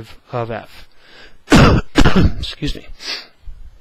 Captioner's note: instructor coughing